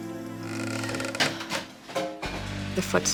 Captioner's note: creaking